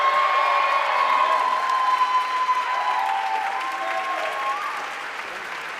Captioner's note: audience cheering and applauding